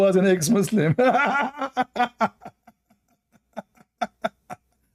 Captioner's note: Ketawa